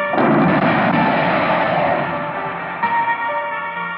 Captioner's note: exploding; sad music